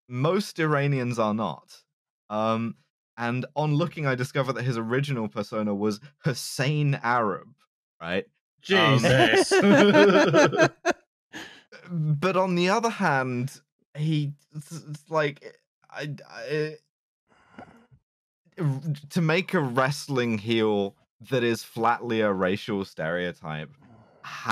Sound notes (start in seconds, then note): 8.8 laughter; 16.1 stammers